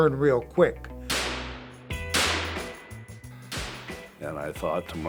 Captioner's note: gunshots ring out